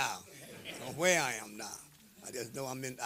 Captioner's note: laughter